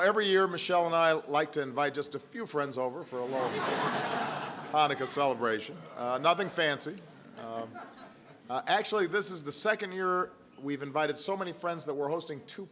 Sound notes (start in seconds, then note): 5.7 laughter